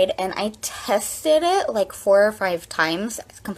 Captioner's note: none